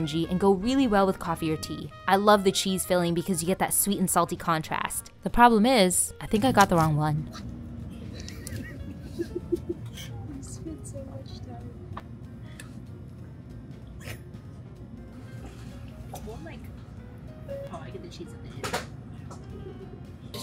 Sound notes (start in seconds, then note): 8.1 laughs